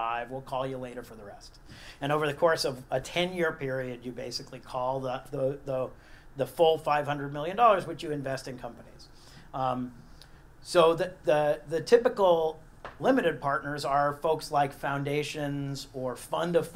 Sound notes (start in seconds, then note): none